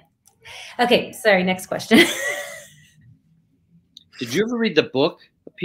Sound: laughs

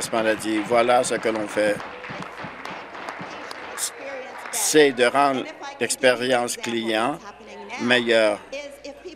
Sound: applause

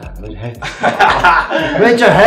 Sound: laughter

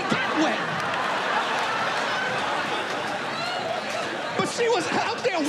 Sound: laughter

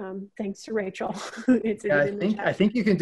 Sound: laughs

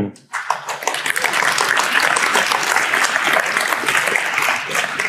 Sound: audience applauding

